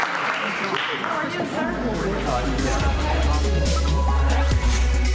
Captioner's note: applause